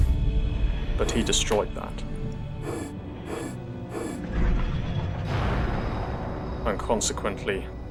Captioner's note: serious time damage and explosion